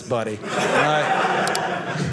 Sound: audience laughing

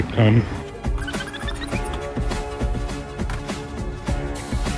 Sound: squeaking

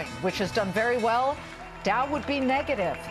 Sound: closing bell rings

